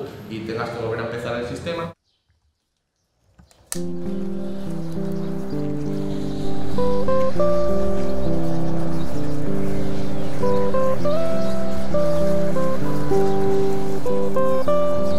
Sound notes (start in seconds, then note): 3.6 clapperboard; 3.9 birds